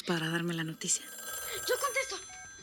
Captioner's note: Suena el teléfono